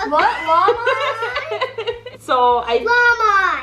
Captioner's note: laughing